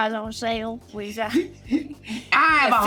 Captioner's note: Richard laughs